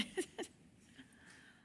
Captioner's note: laughter